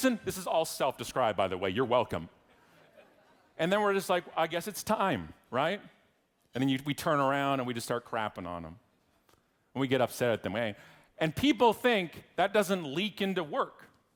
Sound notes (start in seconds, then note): 2.7 audience laughing